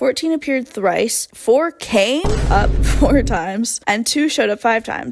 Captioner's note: boom; laugh